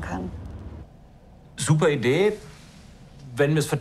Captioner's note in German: zögernd